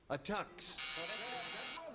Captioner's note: buzzer